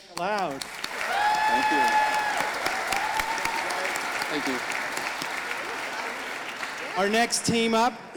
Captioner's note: audience applauding